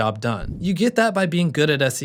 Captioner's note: air whooshing